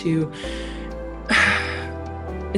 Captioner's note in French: soupir